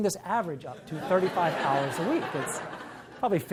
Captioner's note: audience laughs